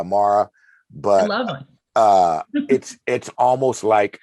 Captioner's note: chuckles